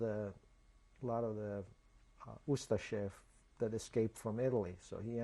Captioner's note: non-english